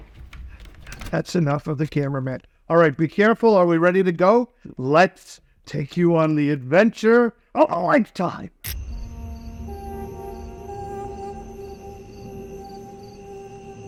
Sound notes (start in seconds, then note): 8.7 crickets chirping